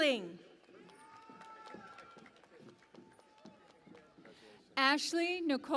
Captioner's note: cheering and Applause